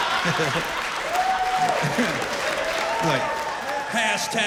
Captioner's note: laughter